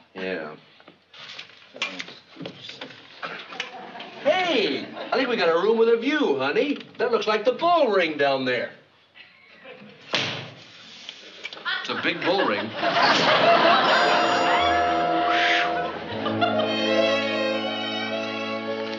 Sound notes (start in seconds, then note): 15.2 exhaling